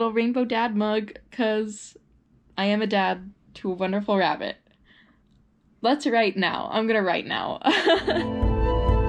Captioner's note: laughs